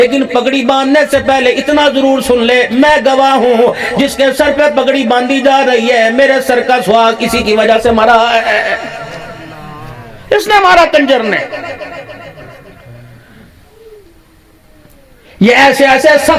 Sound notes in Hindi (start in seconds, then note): 11.6 हंसी